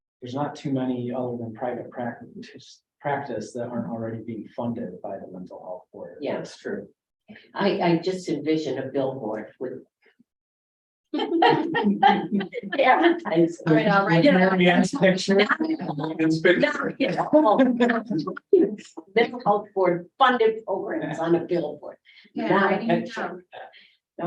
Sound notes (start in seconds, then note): 11.2 laugh